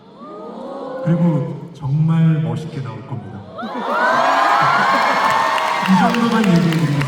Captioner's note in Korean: 환호